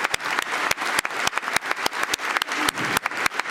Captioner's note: applause